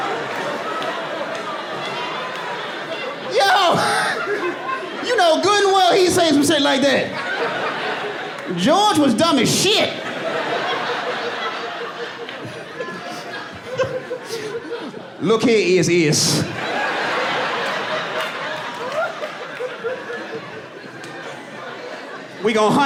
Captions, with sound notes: Yo! [LAUGHS] You know good and well, he'll say some shit like that. George was dumb as shit! [IMITATING GEORGE W. BUSH] Look here, Is-Is. [AUDIENCE LAUGHING] We gonna hunt Is-Is,